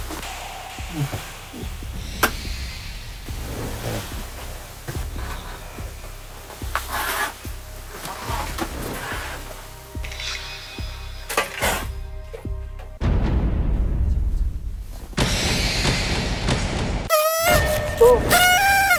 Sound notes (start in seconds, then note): 3.2 snoring; 8.2 snoring; 17.1 boo